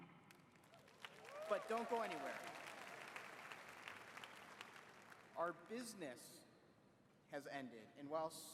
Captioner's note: applause